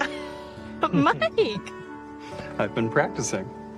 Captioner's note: laughs